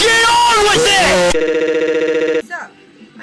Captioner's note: stutters